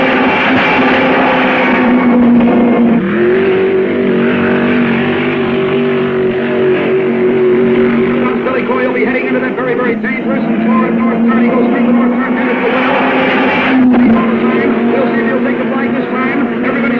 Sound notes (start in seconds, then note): 0.6 car booming; 3.3 car revving; 11.9 car screaming